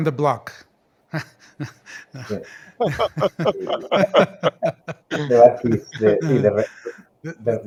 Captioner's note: laughs